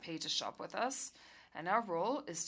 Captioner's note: speaking FRENCH